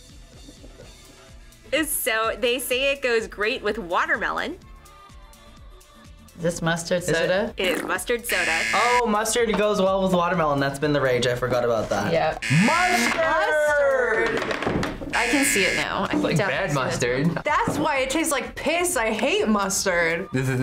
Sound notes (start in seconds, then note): 8.2 buzzer rings